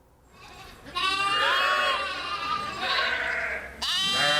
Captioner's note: sheep bleating